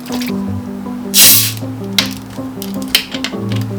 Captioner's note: pitter-patter; hissing